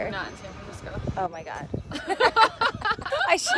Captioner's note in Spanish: Laughter